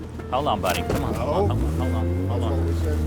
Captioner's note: engine revving